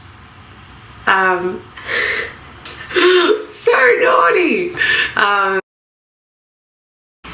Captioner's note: laughs